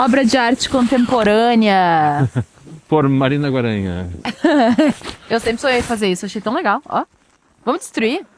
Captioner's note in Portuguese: risadas